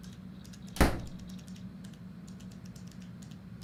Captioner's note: door slams